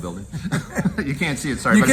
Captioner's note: laughs